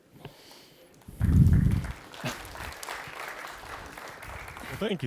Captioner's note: applause